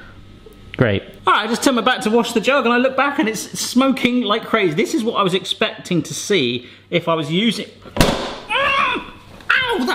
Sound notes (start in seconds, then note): 8.0 banging; 8.6 yelling